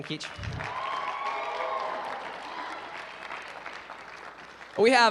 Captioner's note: applause